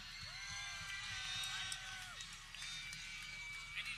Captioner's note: people cheering